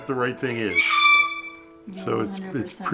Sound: bird squawking loudly

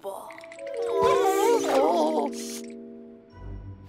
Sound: Vector and Cozmo groaning in unison; light pensive music

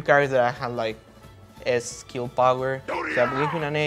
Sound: Ganondorf screams

